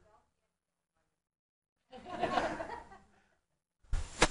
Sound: audience laughing

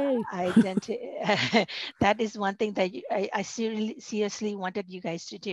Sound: chuckling

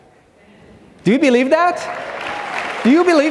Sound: audience clapping

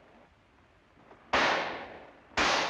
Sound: gunshot

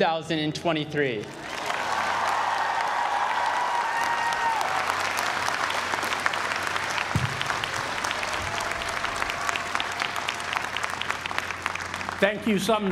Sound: applause

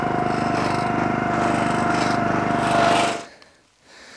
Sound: engine off

